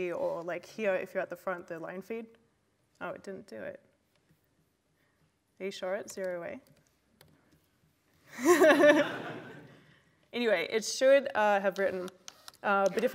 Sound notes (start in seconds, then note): 8.3 laughter